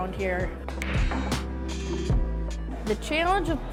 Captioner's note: balls hit